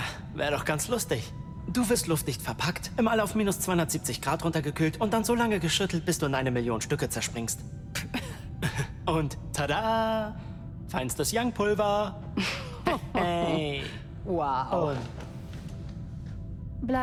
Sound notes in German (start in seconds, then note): 9.6 gelächter